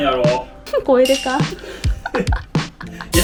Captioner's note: laughs